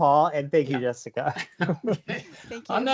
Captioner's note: chuckles